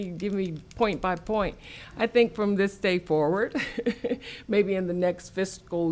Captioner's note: laughs